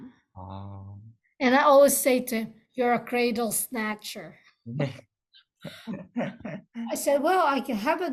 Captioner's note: both laughs